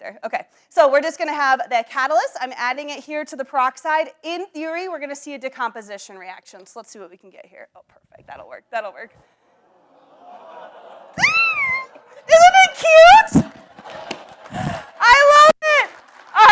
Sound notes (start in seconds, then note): 11.2 squeals